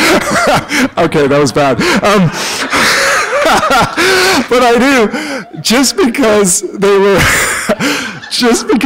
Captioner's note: laughter